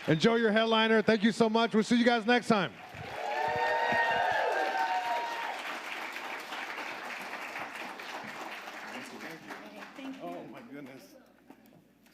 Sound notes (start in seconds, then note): 2.7 audience applauding